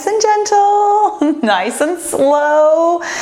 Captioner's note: laughs